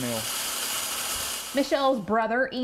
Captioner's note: Nat Sound of Fish Feeder